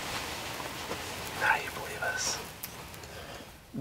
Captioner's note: whispering